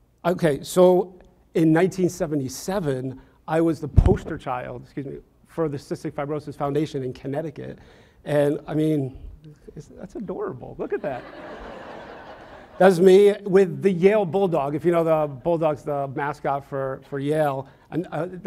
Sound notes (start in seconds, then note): 11.0 audience laughs